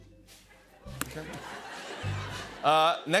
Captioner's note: laughter